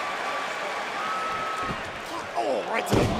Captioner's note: crowd cheering